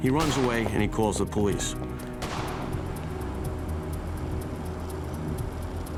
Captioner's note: gun shot